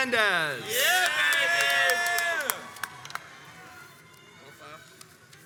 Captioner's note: crowds cheers and applauds